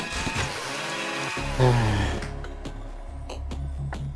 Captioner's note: sigh